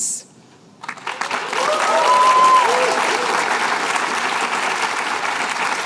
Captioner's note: cheers and applause